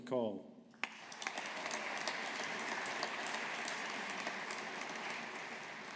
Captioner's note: audience applauding